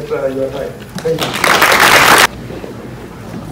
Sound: applause

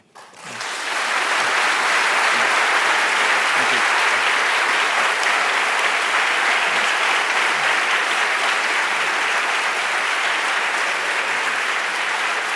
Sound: applause

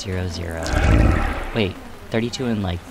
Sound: Azazel grumbles

